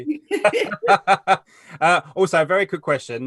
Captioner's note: laughs